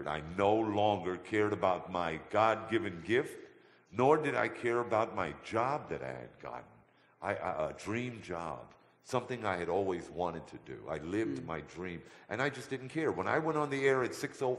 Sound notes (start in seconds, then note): none